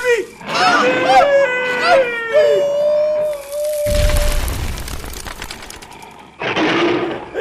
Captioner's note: the sound of the father falling into the pit